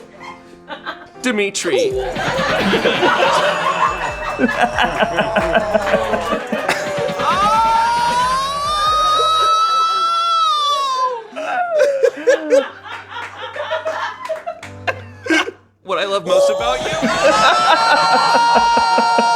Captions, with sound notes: [laughter] "Dimitri." [screaming] [laughter] "What I love most about you-" [laughter]